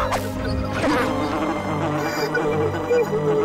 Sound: buzzing

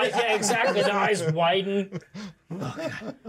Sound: speaker laughs

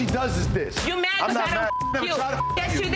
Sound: beep

